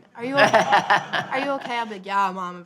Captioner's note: audience laughing